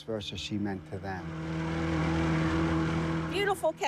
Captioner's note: engine roaring